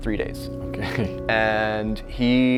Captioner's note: laughs